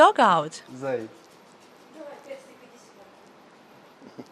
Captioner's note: laughter